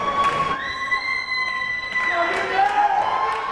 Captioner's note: crowd cheering